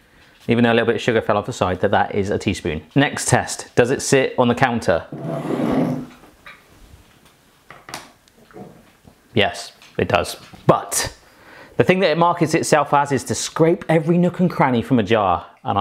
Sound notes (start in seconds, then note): none